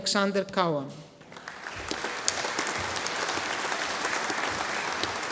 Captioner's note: audience applauding